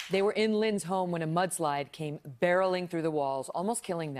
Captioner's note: applause